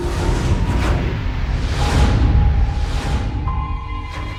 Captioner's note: explosion rumbling